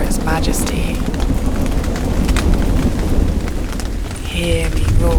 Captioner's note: thunder